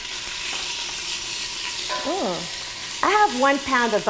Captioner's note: chicken sizzling